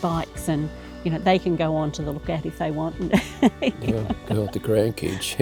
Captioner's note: laughs